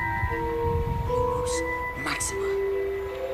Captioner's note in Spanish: susurrando